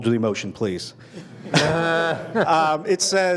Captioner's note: laughter